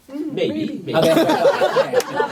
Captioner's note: laughter